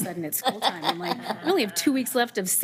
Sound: board chuckling

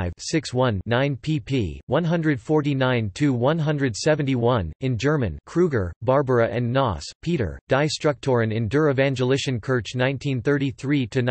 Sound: in German

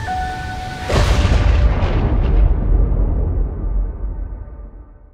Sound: lightning & thunder

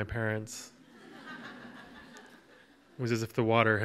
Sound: audience laughs

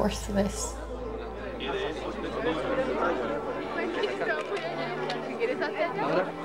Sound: people chattering indistinctly; people speaking in foreign language

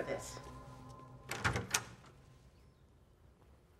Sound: door opens

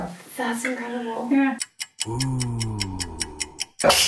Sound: deep Voice; laughing; steam venting

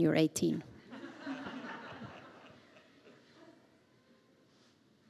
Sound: audience laughing

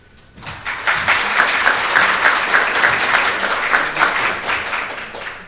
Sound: audience applauds

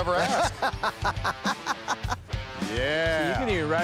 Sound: laughter

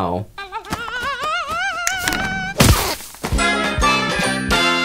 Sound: bird sings, the broom smacks it

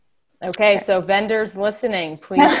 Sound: laughing

